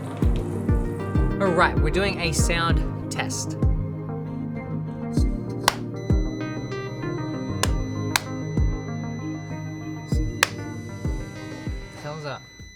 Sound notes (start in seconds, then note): 5.6 claps; 5.9 beep